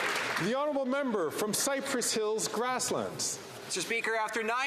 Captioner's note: some Applause